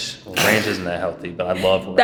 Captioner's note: laughing